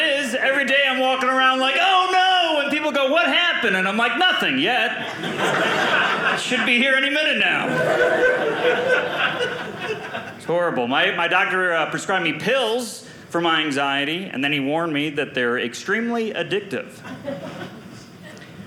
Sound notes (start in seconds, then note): 7.6 audience laughing